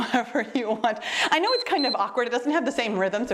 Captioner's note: timer beeps